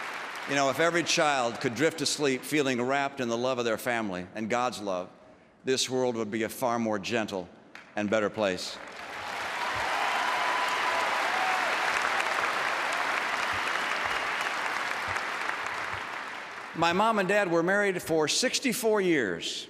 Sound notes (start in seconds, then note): 14.0 applause